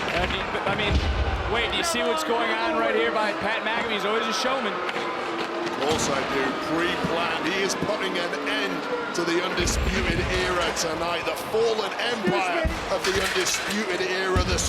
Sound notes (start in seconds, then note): 5.2 crowd boos